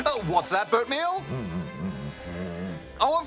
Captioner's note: grumbles